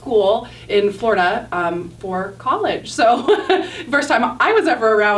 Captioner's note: laughs